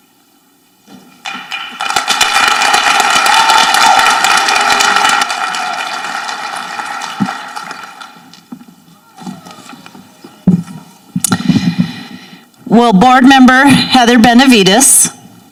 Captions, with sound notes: (people applauding) - Will Board Member Heather Benavides,